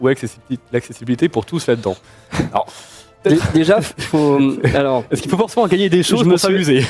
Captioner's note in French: rires